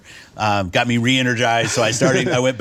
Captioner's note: chuckles